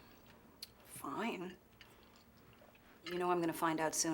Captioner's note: clicks tongue